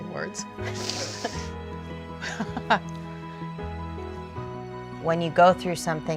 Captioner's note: laughter